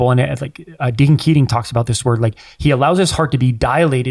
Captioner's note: none